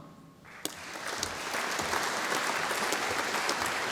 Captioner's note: audience applauding